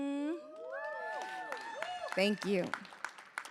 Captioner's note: audience cheering